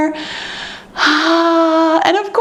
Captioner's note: exhales sharply